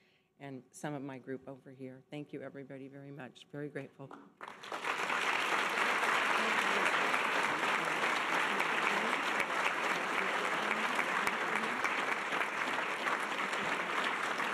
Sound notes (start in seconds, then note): 4.4 audience applause